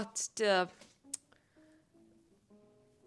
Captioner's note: tsk